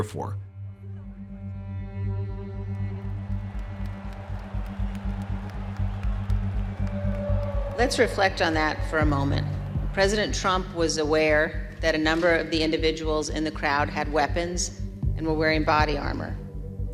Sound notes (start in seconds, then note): 4.2 cheers and applause